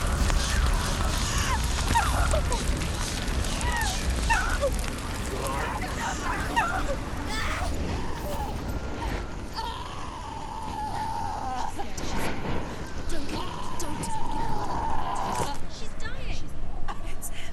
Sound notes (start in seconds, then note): 9.0 screaming